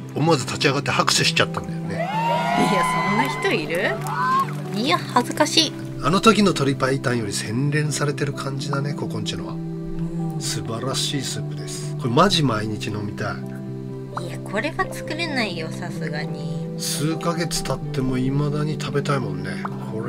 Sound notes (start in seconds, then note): 2.3 laughs